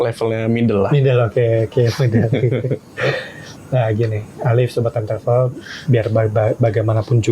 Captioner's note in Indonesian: tertawa